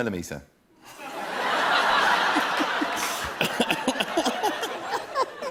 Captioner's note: laughter